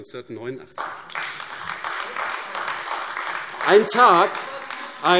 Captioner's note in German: Beifall AfD - Zuruf DIE LINKE: Das ist unglaublich!